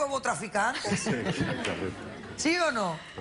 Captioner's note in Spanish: Risas del público